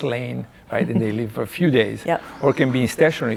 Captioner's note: laughing